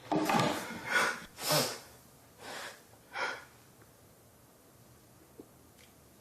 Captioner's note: heavy breathing; sniffs